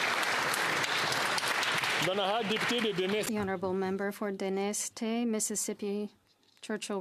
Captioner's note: applause